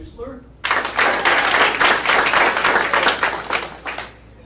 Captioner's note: audience applauding